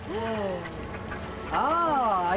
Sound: whale cries

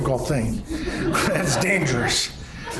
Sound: laughing

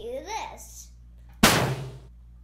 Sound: poof!

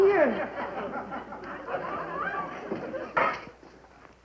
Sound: laughter

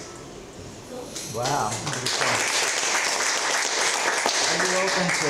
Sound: applause

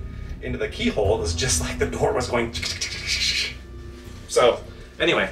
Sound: imitates door rattling

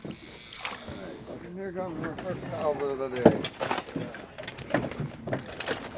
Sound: reel spinning

